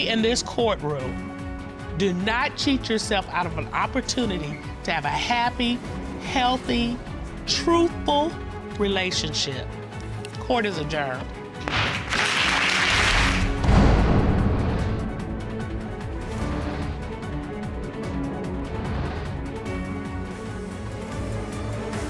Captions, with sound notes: And as we say in this courtroom, do not cheat yourself out of an opportunity to have a happy, healthy, truthful relationship. Court is adjourned. (GAVEL BANGING) (AUDIENCE APPLAUDING)